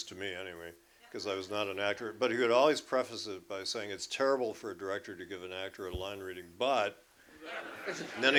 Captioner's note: laughter